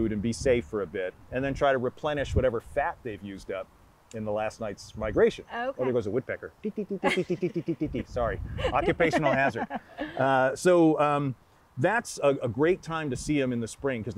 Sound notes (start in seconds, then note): 8.5 laughing; 8.6 making woodpecker noises